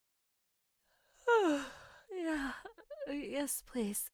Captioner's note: yawning